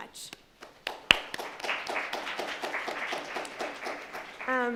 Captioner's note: audience applauds